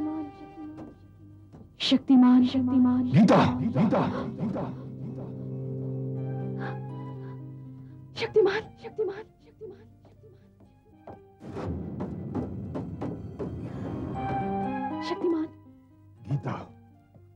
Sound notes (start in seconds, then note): 3.3 gasps